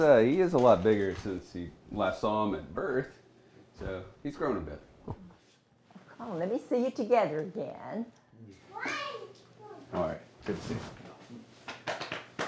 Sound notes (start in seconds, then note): 8.7 child babbling